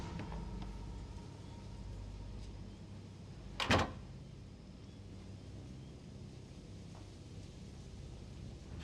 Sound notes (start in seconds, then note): 3.6 door shuts